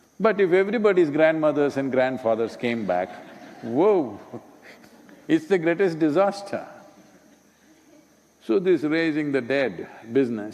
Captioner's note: laughter